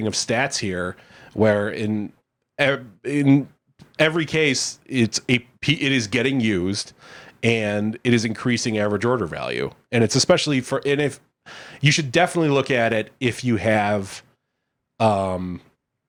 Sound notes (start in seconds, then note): none